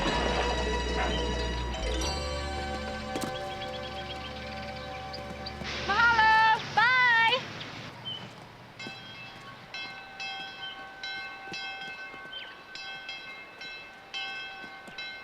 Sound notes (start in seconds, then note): 6.2 speaking in a foreign language; 8.7 train bell ringing